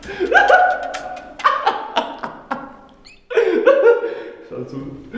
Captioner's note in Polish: śmiech